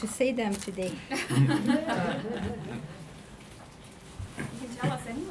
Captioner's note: audience laughing